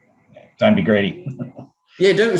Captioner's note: laughs